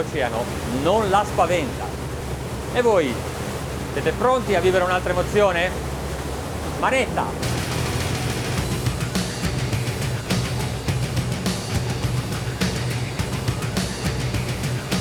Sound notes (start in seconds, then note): 2.8 speaking in foreign language; 7.3 lively metal music